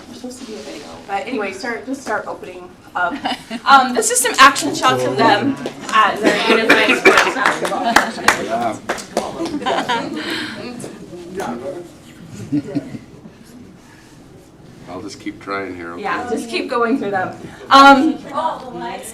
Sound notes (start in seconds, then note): 6.2 laughter; 10.5 applause